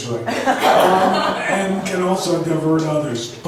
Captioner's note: laughs